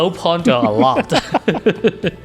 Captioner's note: laughter